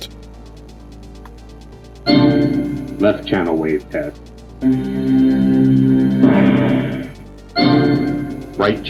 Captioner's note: bing